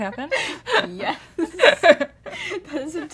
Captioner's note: laughter